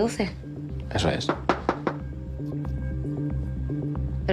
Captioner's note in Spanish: Llaman a la puerta